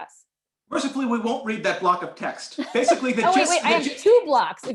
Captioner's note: laughter